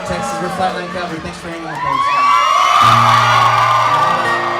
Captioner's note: cheering